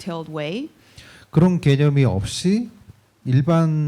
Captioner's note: speaking korean